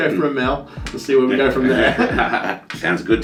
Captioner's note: laughter